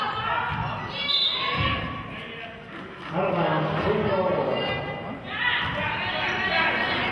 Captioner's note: whistle blows